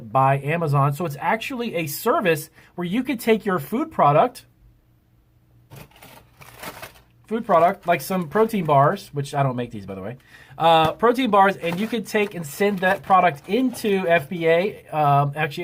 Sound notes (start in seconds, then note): 5.7 package crackles